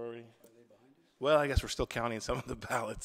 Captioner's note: laughs